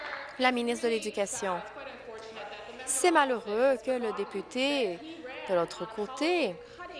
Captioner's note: applause